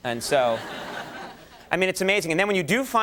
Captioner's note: audience laughing